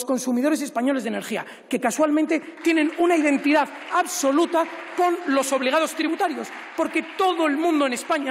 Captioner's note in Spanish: aplausos